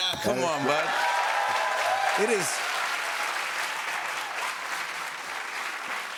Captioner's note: cheers and applause